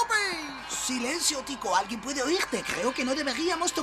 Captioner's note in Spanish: Rigodón susurra